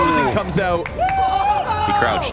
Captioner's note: players applauding and cheering